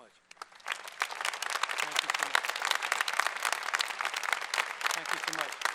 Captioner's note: applause